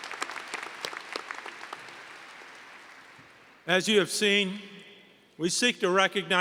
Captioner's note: applause